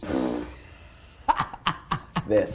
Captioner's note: laughing